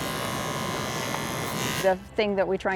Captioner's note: buzzing